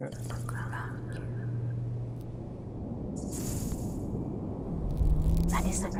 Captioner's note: female voice